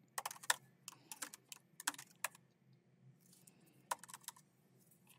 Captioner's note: keyboard clacking continues